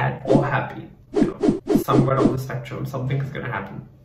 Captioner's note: swooshing continues; swooshing sounds